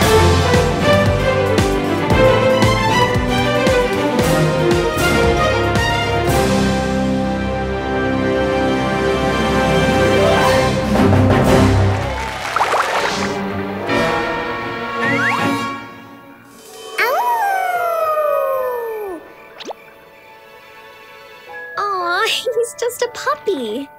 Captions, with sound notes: [orchestra playing] [orchestra playing] [orchestra playing] [howling] Aww, he's just a puppy.